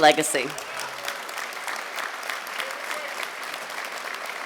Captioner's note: audience clapping